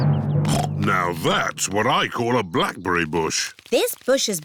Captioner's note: snorts